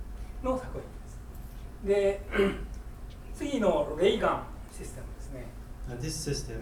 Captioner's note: speaking in foreign language